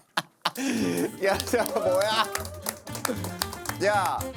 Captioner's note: confused applause